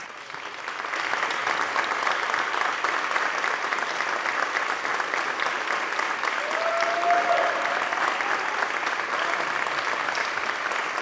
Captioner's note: applause